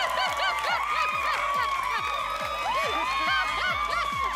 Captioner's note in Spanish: Gritos y exclamaciones